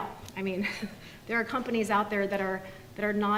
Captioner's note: laughs